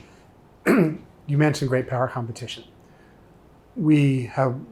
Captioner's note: clearing throat